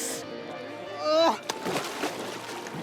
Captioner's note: laughs; grunts